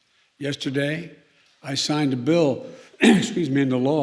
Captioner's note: clears throat